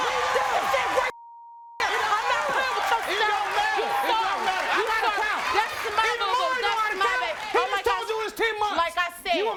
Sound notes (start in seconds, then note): 1.2 beeping